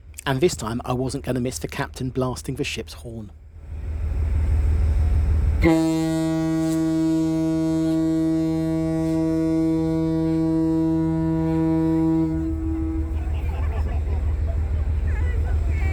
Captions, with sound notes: And this time I wasn’t going to miss the captain blasting the ships horn. [SHIPS HORN BLASTING]